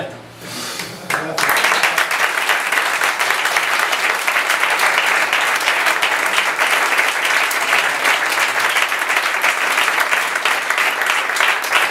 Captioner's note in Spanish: aplausos